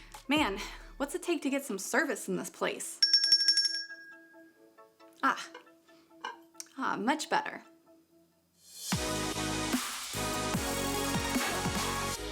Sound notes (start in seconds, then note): 3.0 bell rings; 8.8 upbeat music